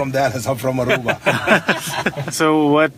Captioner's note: laugh